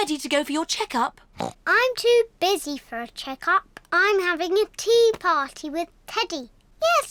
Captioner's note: oinks